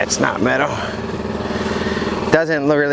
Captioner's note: engine chugging